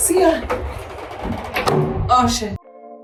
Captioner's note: doors slide and click